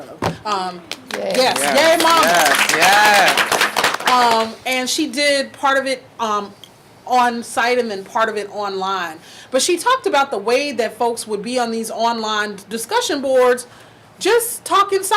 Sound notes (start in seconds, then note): 0.9 audience clapping